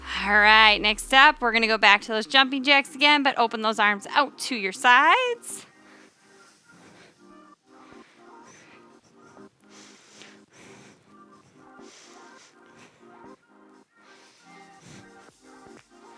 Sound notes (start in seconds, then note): 7.6 upbeat music; 7.8 panting